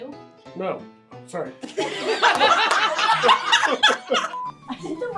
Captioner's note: laughter